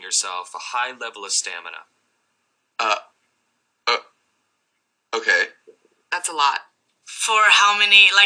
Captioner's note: stammers